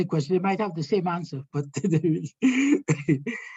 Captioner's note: chuckling